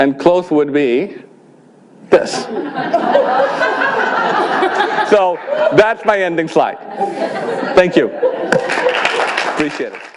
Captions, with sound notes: Close would be this. (audience laughing) That's my ending slide. Thank you. (applause) I appreciate it.